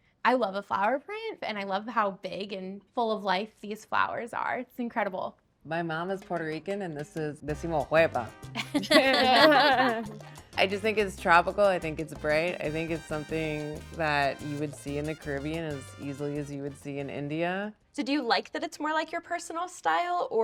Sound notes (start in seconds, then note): 7.7 speaking Spanish; 8.6 group laughing